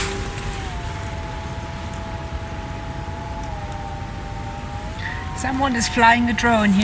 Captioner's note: buzzing sound of drone